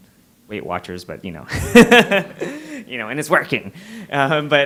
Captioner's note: laughs